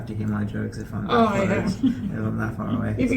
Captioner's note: laughs